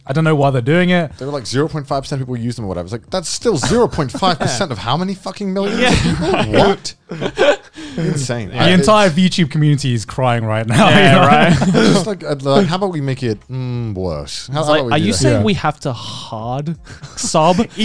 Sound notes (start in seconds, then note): 7.6 laughing